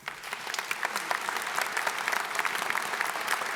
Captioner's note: applause